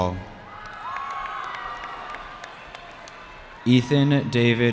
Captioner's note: cheering